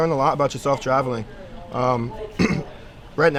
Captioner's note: clears throat